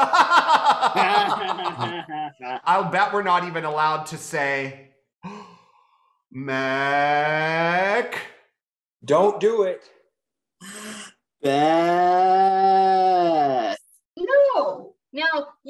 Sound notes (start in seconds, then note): 0.0 laughing; 5.2 gasps